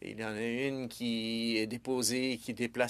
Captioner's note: speaking French